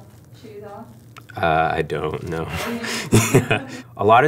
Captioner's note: chuckles